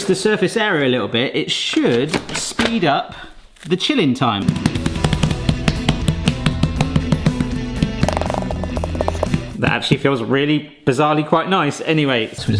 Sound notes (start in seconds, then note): 4.8 hands slapping; 4.8 upbeat rock music